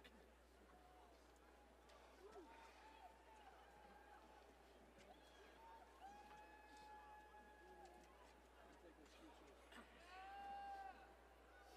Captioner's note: applause